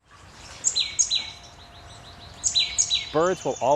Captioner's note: birds chirps